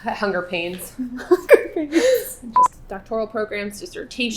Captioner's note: laughing